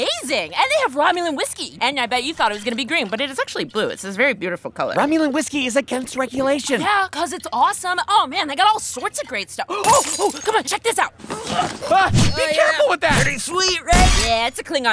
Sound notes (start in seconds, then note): 9.8 glass shattering; 11.0 grunts; 11.0 shrieks; 11.8 swooshing